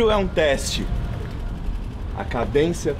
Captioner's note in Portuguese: Barulho carros